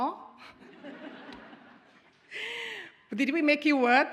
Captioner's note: audience chuckles